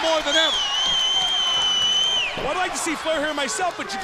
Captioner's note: crowd chatter